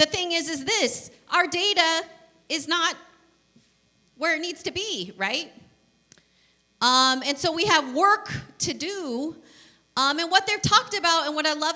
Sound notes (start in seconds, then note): none